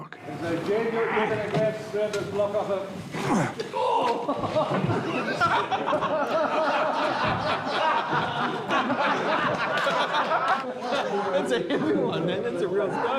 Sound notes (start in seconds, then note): 3.1 actors grunt; 4.6 all laughing